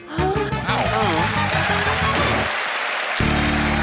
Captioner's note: cheering and applause